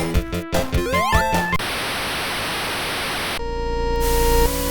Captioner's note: creepy static plays